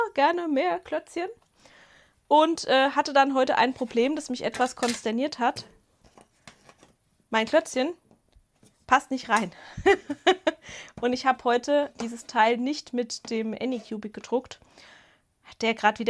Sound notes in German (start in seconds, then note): 9.7 Gelächter